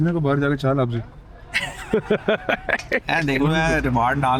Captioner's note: everybody laughing